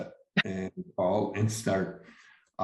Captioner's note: chuckles